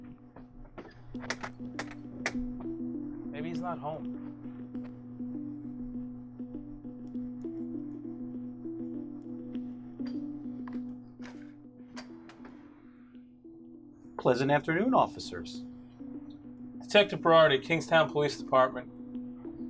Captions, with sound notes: (Knock) Maybe he's not home. Please afternoon, officers. Detective Berardi. Kingstown Police Department.